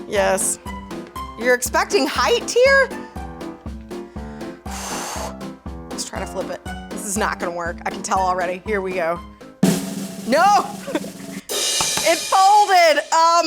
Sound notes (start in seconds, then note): 4.6 exhaling loudly; 9.6 drum roll; 11.6 cymbal crashing